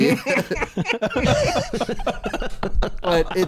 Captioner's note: laughter